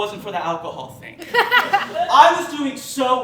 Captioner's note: laughter